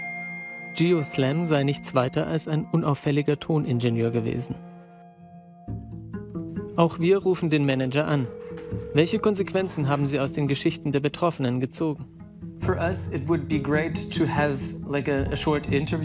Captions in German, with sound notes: Geo Slam war nichts weiter als ein unauffälliger Ton Ingenieur gewesen. Auch wir rufen den Manager an. Welche Konsequenzen haben sie aus den Geschichten der Betroffenen gezogen? (englisch:)